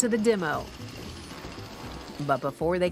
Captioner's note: chainsaw revving